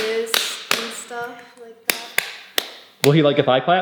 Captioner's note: clapping